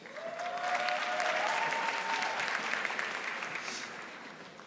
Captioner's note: audience applauding